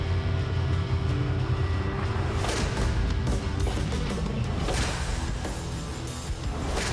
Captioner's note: blow impacts